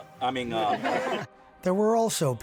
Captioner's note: people laughing